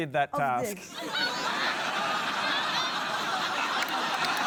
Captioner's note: laughter